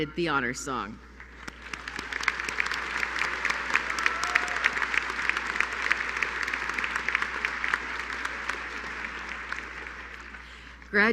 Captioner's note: applause